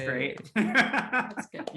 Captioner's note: laughing